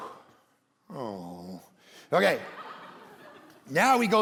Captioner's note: congregation laughing